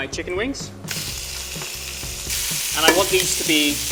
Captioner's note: meat sizzling